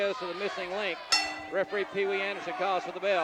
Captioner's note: bell dinging